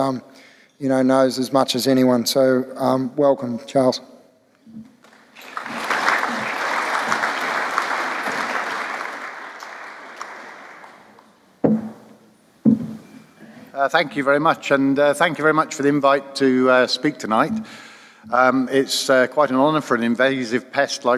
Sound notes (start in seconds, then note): 5.0 clapping; 13.4 voiceover